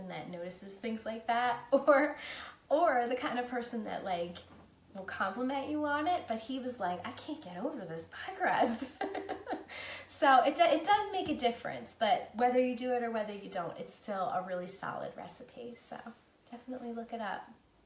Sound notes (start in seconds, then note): 9.1 laughing